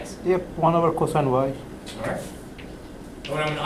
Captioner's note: voiceover